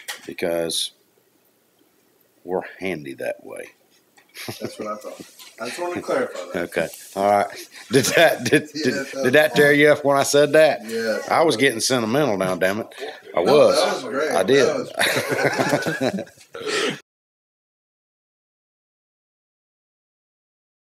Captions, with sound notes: because we're handy that way. - That's what I thought. I just wanted to clarify that. - Okay. Alright. Did that tear you up when I said that? - Yeah. - I was getting sentimental now damnit. I was. I did. (laughs)